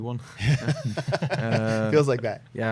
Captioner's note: laughter